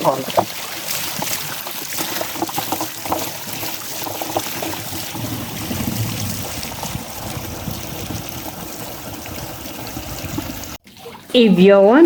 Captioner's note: sound of water flowing